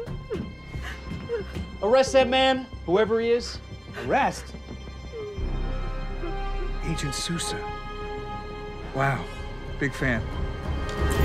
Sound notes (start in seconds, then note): 5.0 sobbing continues